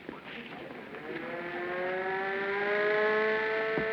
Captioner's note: siren